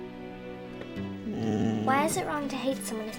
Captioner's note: Bob groaning